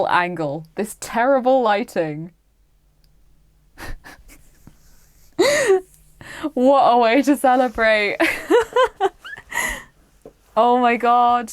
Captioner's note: laughs in relief